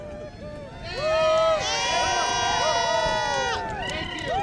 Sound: crowd cheers

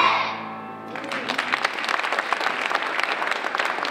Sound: applause

